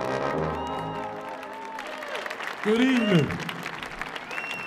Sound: audience cheering

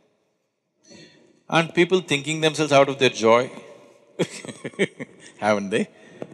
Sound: laughs

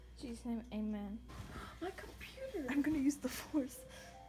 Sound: gasps

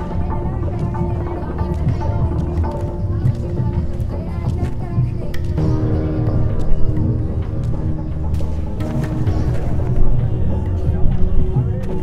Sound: people chattering

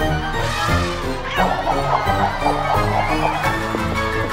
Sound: elephant trumpets; lively music continues

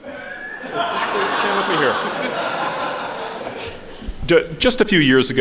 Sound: audience laughing

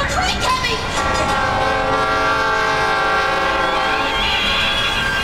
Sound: train horn blowing; brakes screeching

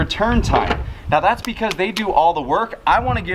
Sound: slapping

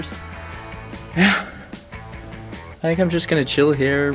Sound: sighs

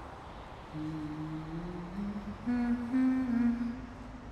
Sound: person humming

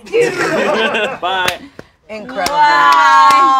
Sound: laughs

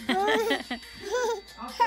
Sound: laughing

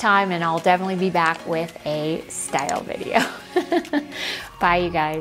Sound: laughs

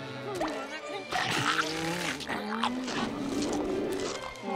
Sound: groaning

